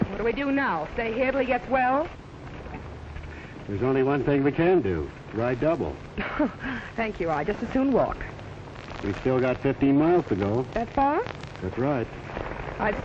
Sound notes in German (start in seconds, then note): 6.2 lacht